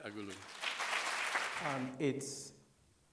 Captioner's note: applause